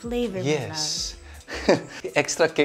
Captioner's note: chuckles